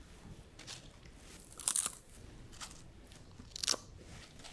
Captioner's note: chips crunching